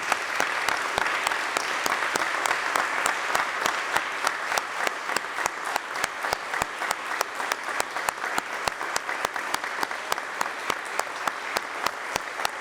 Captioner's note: applause